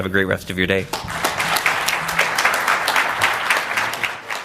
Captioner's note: applause